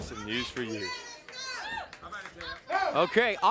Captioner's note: crowd cheering